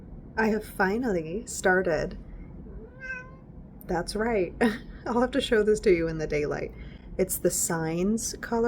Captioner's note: meow